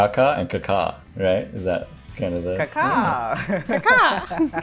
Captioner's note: laughs